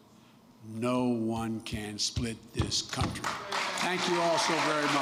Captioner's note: applause